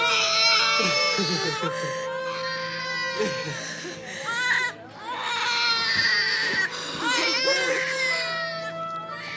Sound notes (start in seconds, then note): 1.5 baby crying: Parents laughing